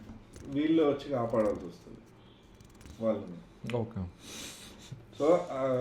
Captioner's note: snoring